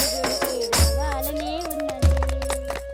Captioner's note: applauding